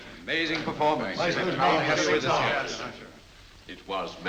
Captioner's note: all congratulating